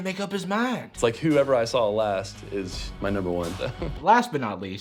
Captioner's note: laughs